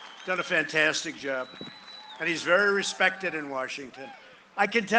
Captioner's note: cheering and applause